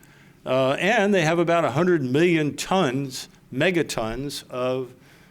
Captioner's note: none